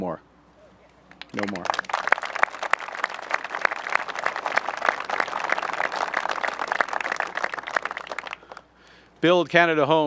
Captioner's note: applause